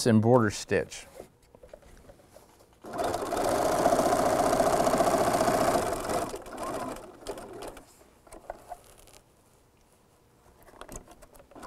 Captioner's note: sound of a sewing machine